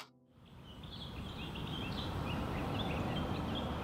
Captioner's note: birds chirp, music plays